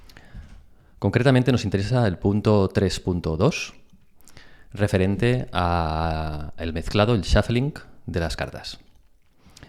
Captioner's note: shuffling